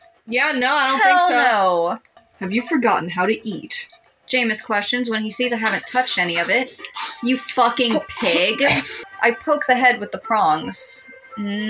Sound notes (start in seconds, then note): 6.2 animalistic Eating